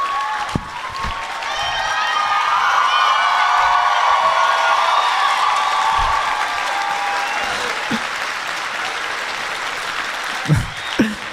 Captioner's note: applause